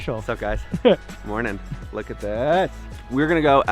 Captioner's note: laughs